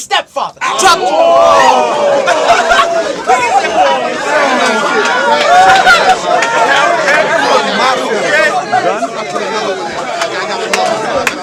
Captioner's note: crowd Reaction